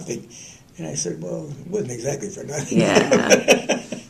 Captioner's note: laughter